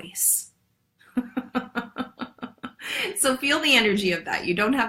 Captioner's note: laughs